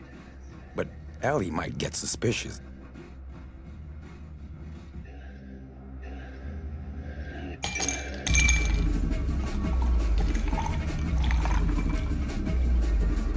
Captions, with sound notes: But Ellie might get suspicious. (ice cubes clink, liquid pours)